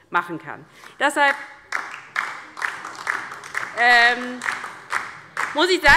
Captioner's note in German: Beifall DIE LINKE